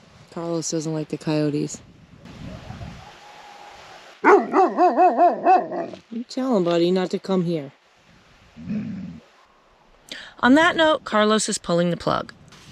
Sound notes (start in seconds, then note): 4.2 Carlos barking; 8.6 Carlos Growls